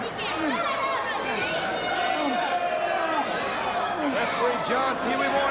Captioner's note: crowd chatter